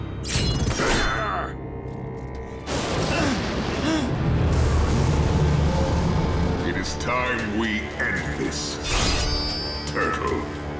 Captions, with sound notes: [grunting] [groaning] It is time we end this... turtle.